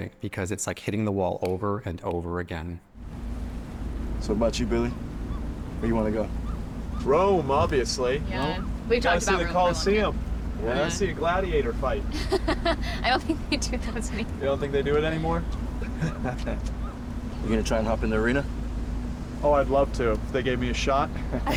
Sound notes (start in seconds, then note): 12.0 laughs; 15.7 Billy chuckles